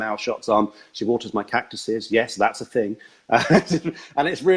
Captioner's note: laughs